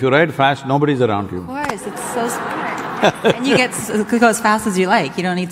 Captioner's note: few laugh